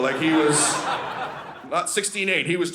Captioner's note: audience laughing